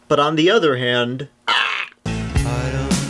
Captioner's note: gags self with finger